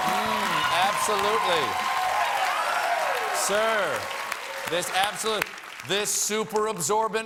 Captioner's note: cheers and applause